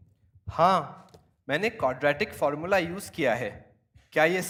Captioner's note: speaking hindi